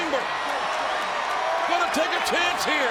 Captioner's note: audience cheering